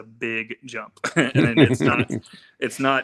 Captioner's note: laughing